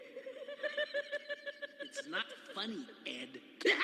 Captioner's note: laughter